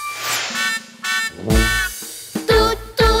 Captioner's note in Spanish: Sonido de Bocina